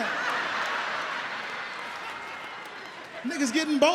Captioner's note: audience laughs